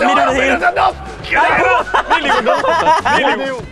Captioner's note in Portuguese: Risada